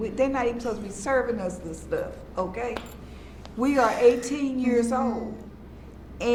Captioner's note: none